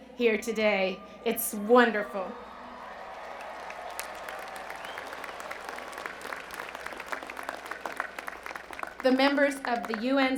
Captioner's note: cheers and Applause